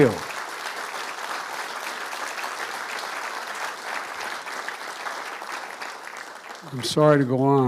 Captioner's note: applause